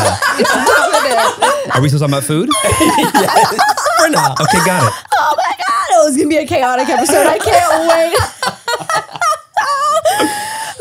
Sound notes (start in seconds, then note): 0.0 everyone laughs; 4.0 everyone laughs; 6.9 everyone laughs